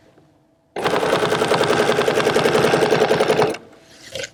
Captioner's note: machine whirring